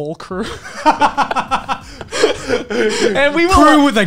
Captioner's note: laughing